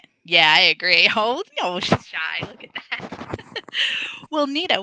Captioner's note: laughs